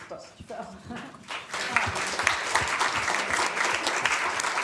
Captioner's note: applause